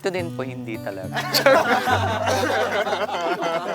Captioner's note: laughter